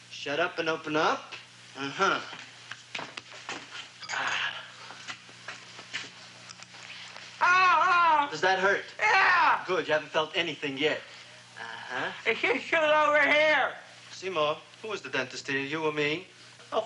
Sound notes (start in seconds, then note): 6.5 clicking